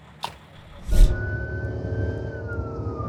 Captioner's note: sirens